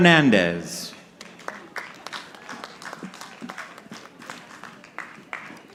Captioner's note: audience clapping